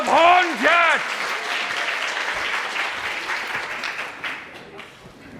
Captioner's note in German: Applaus